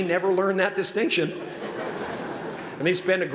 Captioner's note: laughter